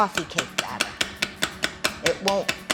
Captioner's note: metal clinks